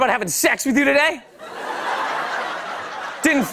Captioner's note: laughter